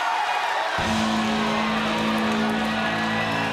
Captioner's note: bell rings; crowd cheering